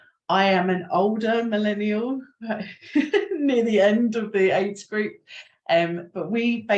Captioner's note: chuckles